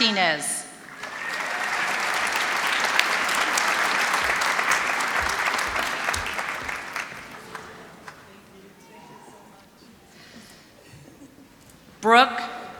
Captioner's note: applause